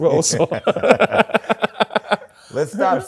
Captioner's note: laughs